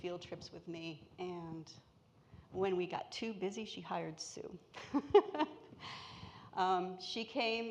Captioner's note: laughs